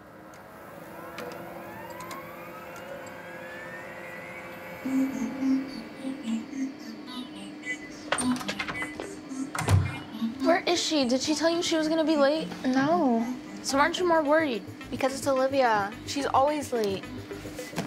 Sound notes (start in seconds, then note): 4.8 light upbeat music; 8.1 door clicks